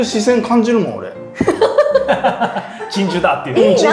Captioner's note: laughing